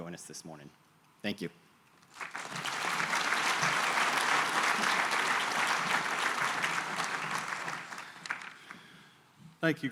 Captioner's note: applause